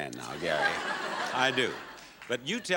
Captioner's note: audience laughing